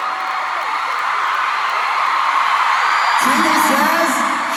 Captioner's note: crowd cheers